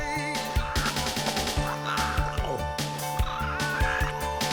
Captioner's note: צווחות